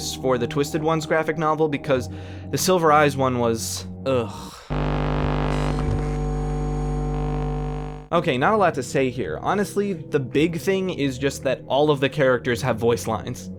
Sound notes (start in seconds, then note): 4.7 electronic hum